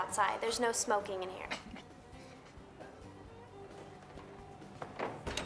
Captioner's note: Jack laughing